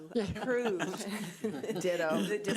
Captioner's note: group laughs